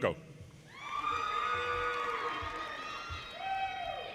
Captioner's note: audience cheers